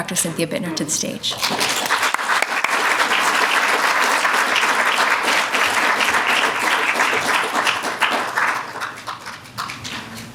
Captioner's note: applause